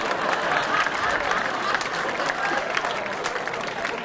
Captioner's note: laughing; clapping